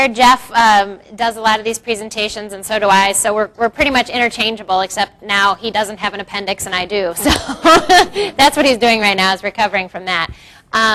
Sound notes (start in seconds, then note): 7.4 laughs